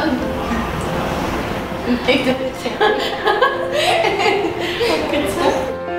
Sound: laughing together

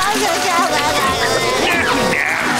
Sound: crying

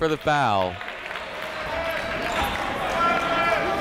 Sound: chatter

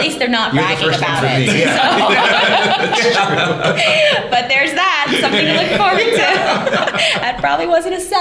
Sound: laughter

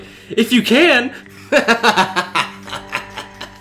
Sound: laughing like a mad man

